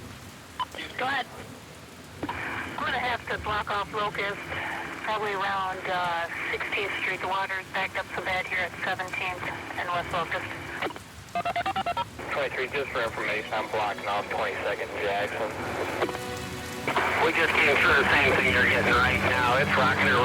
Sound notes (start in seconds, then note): 11.3 radio beeps